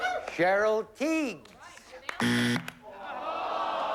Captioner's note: buzzer